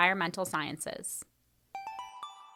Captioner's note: chime